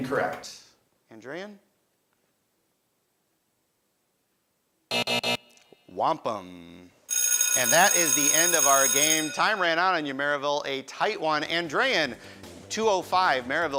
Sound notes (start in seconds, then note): 4.9 buzzing; 7.1 bell ringing